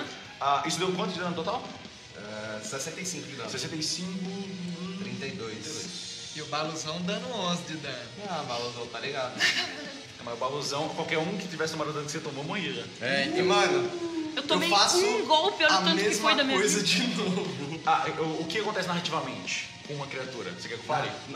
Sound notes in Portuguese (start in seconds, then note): 9.3 Risos; 16.9 Risos